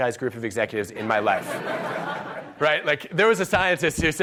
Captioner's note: audience laughs